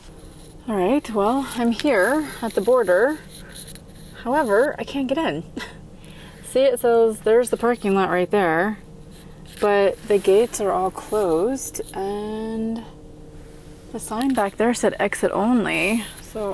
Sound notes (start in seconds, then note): 5.4 chuckling